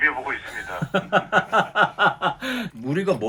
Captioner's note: laughing